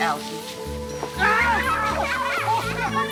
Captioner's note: Allison laughing; Richard screaming